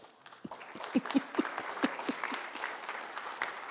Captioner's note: audience applauds